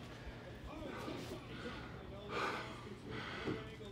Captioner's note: Mark panting